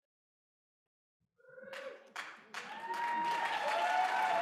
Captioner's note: applause